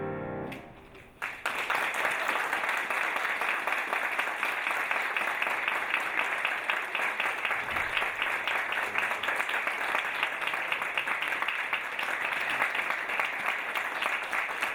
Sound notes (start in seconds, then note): 2.8 audience applauding